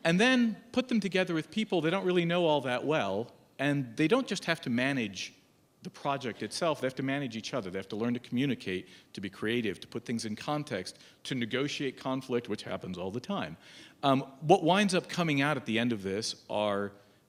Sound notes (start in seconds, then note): none